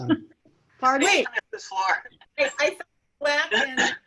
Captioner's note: members chattering